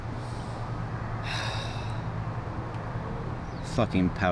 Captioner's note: sighing